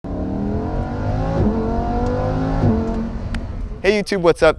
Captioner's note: 5.2L V10 engine roars